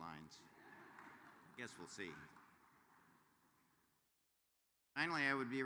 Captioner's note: laughter